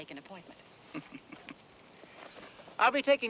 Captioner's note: Monty chuckles